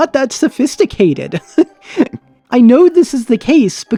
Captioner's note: laughs